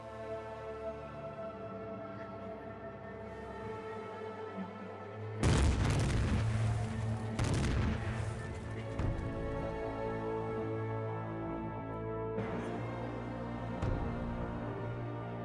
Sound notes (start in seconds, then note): 5.4 explosion